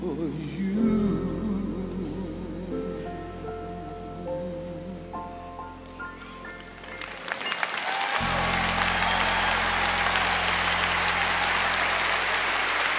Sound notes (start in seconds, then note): 8.3 cheers and applause